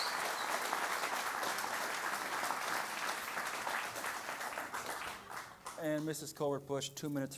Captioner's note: applause